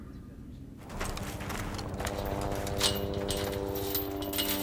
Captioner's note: plane whirring